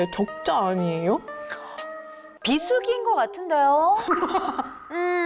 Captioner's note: inhale sound